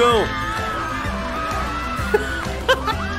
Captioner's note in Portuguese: risos